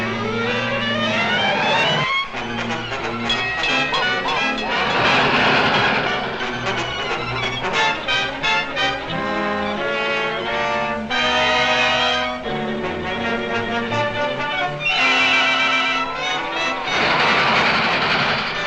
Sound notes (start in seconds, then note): 0.1 engine rumbling; 0.1 light dramatic music; 4.2 bell clangs; 15.1 dramatic music